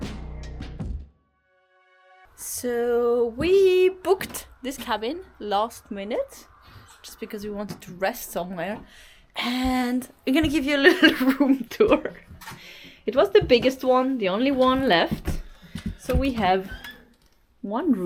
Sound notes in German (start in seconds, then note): 10.8 lacht